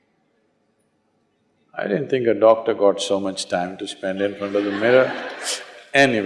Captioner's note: laughter